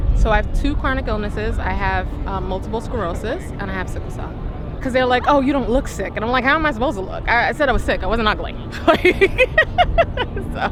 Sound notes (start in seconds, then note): 8.7 laughing